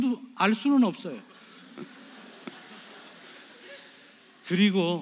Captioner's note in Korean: 관객 : 웃음